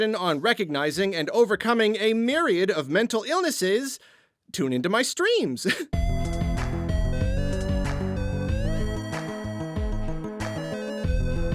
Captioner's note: laughs